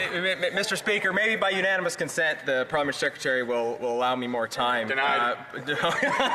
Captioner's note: laughter